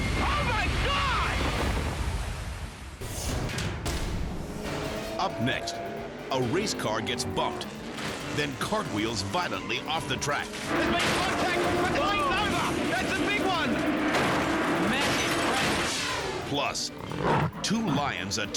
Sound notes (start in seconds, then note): 3.1 dramatic air whoosh; 5.1 cars grinding; 10.2 car crashing; 13.7 car imploding; 16.0 dramatic air whoosh; 16.8 lions snarling